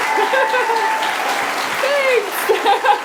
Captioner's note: applause